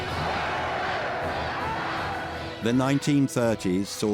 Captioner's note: dramatic music; crowd cheering